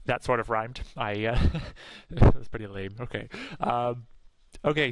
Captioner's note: chuckles